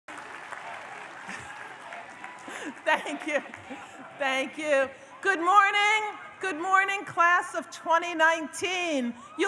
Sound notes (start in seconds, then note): 0.0 audience applauds